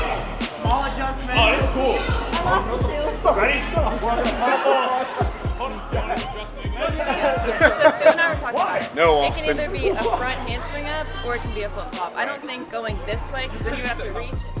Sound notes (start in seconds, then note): 3.9 chatter fades out; 12.1 talking fades out